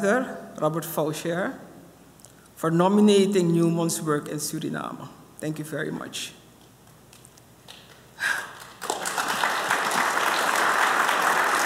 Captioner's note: applause